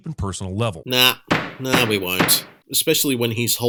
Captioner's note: gavel bangs